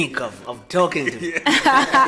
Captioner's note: everybody laughs